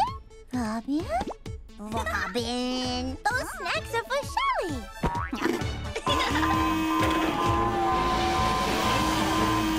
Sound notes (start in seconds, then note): 6.2 alarm blaring